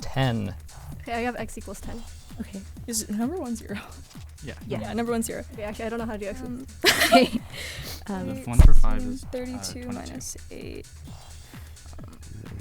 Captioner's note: wispering